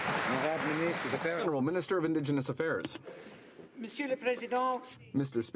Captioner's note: some Applause